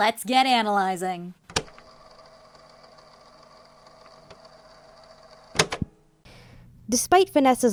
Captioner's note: tape recorder sounds